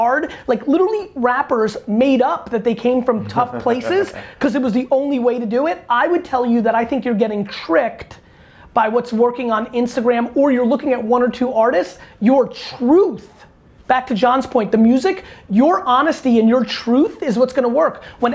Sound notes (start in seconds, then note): 3.2 laughs